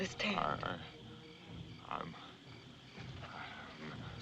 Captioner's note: murmuring